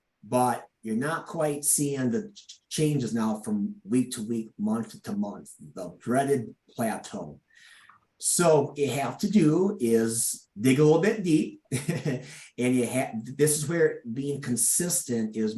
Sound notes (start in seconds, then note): 11.7 chuckles